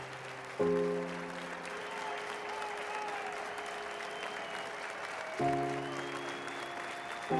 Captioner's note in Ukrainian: оплески